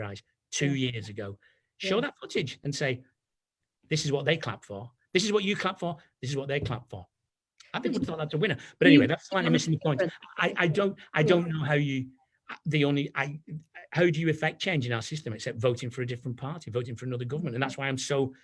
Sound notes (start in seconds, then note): 9.7 audio clipping